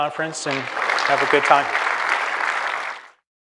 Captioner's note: applause